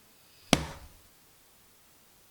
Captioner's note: bam